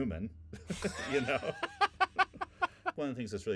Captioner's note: laughing